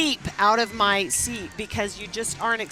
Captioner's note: laughing